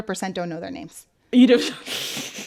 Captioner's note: laughter